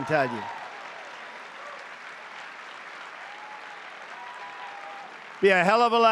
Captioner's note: applause